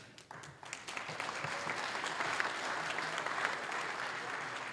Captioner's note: applause